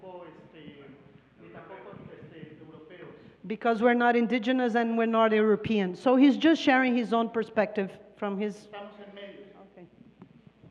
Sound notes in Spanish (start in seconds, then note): 3.8 Traductora habla en inglés; 7.5 Expositor habla en inglés